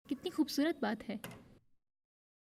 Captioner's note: door opens